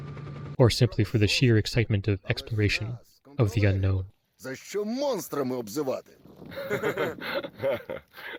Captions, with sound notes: Or simply for the sheer excitement of exploration... ...of the unknown. [Campsite chatter] [Group laughter]